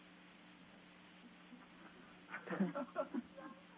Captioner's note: laughter